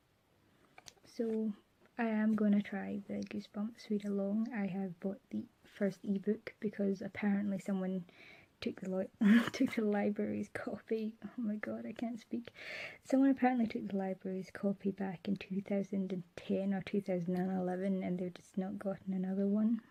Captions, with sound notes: So I am gonna try the Goosebumps readalong. I have bought the first e-book because apparently someone took [laughs] took the library's copy - oh my god, I can't speak - Someone apparently took the library's copy back in 2010 or 2011 and they've just not gotten another one.